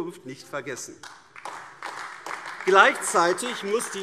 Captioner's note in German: Beifall AfD